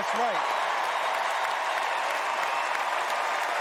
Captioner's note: cheers and applause